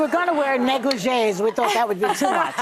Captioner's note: audience laughing